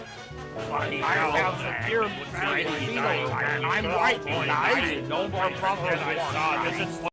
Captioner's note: mutts muttering